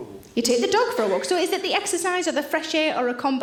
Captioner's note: none